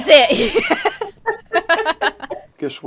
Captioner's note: both laugh